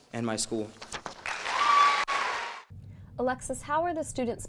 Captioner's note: audience cheering and applauding